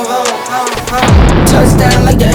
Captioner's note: gun booms